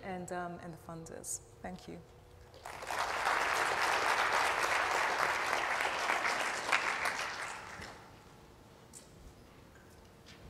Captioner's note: applause